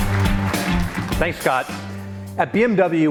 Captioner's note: applause